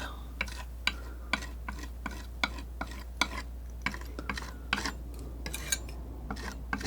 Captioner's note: tapping